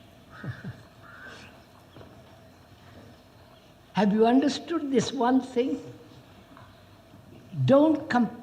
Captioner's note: laughs